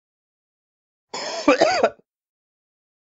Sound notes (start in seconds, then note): 1.1 sound of man coughing